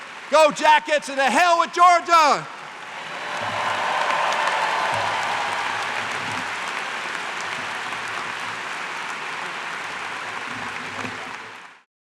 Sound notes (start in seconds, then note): 2.7 cheers and applause